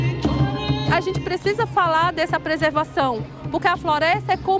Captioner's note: non-english speech